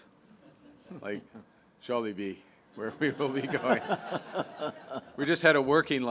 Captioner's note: laughter